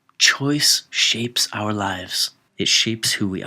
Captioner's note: voiceover